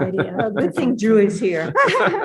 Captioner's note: participants laughs loudly